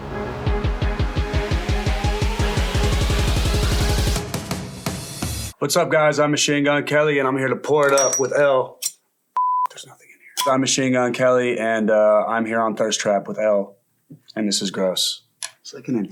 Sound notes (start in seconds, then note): 0.2 bright upbeat music; 9.4 beep